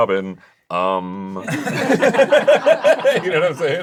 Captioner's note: everyone laughs